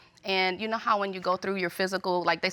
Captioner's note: none